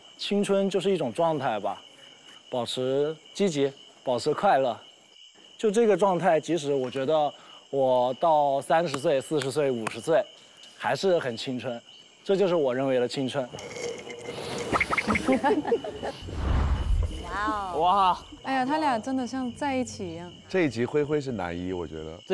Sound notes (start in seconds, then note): 13.5 sipping